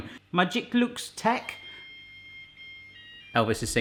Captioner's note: beeping